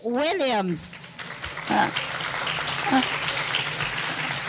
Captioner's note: clapping